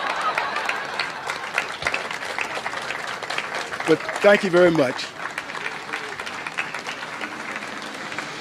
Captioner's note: applause